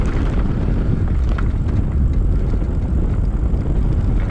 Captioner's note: air whooshing